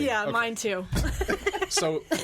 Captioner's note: all laughing